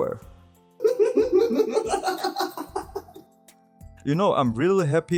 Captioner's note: deranged laughing